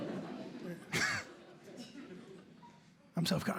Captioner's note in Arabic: ضحكة مكتومة